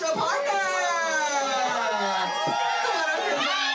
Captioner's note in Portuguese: multidao grita